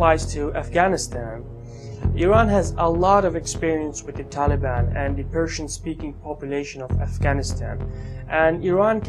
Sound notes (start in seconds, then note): 5.6 Farsi